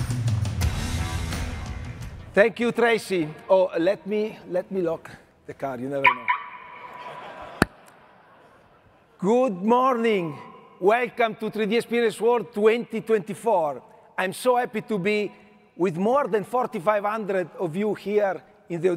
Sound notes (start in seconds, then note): 6.0 alarm beeping; 6.7 audience laughing